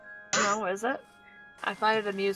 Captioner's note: swig